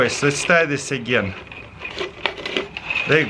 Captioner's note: weaving plastic